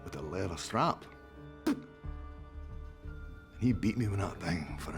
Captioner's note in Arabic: يبصق